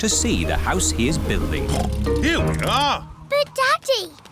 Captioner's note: oinks